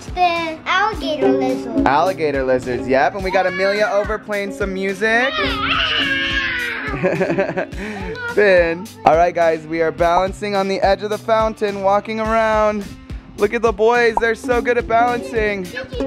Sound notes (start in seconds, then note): 5.3 screams; 5.3 laughs